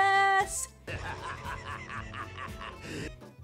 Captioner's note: Starscream laughs evilly